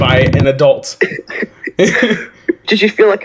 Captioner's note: light Laughing